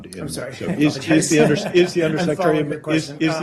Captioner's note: laughter